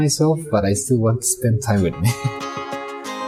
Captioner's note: laughs